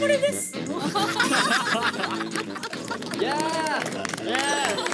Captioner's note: explosion of laughter